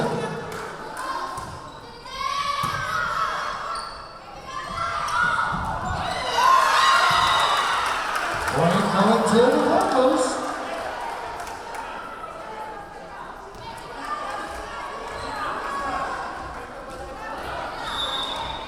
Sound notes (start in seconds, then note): 0.0 yelling; 1.9 yelling; 7.2 cheering; 7.2 whistle blowing; 12.6 yelling